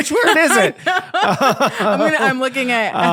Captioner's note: both laughing